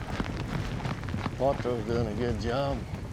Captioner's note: hoof beats